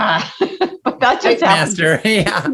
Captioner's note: laughs